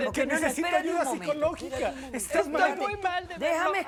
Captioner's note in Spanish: Hablan al unísono